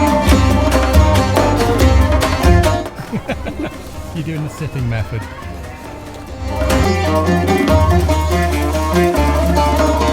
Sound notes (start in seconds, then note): 4.1 laughs; 7.2 arabian music